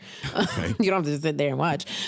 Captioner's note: chuckles